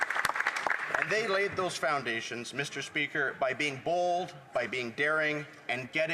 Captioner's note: some Applause